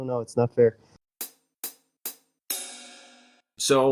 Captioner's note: transition sound